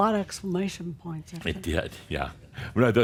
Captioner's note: none